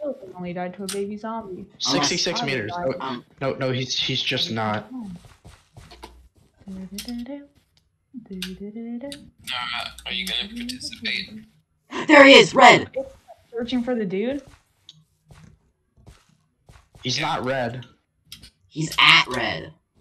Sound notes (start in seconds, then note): 7.3 begins humming